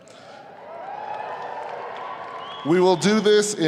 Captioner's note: audience applauding and cheering